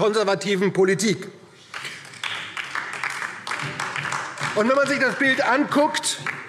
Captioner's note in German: Beifall DIE LINKE und vereinzelt SPD